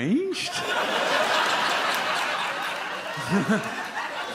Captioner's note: audience laughs